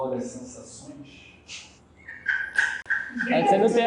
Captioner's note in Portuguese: risos